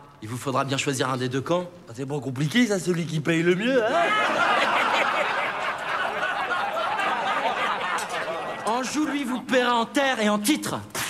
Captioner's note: laughs